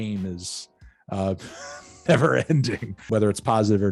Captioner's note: laughs